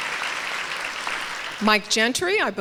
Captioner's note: applause continues